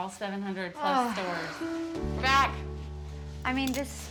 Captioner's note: sighs